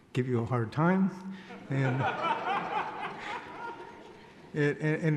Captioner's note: laughing